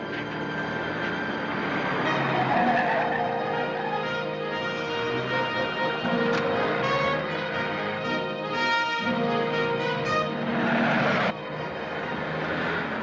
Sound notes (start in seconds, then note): 2.2 brakes squealing